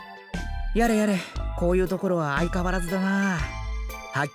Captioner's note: sigh